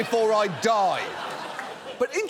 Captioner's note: audience laughs